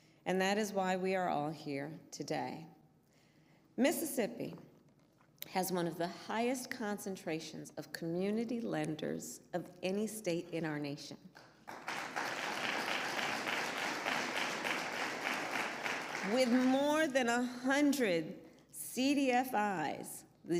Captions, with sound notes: And that is why we are all here today. Mississippi has one of the highest concentrations of community lenders of any state in our nation -- (applause) -- with more than 100 CDFIs --